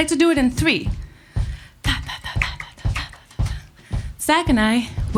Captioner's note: claps